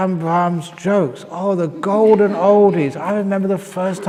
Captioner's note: laughter